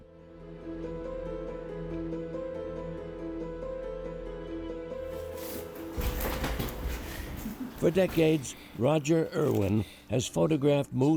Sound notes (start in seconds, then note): 5.1 rustling